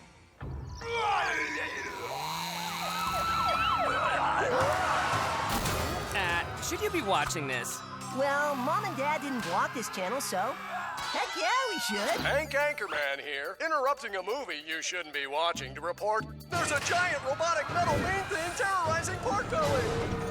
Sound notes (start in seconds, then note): 1.2 monster roars on tv; 2.6 panicked screaming; 3.6 gasps